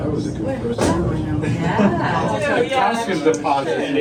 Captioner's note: chatter